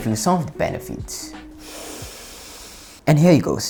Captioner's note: inhale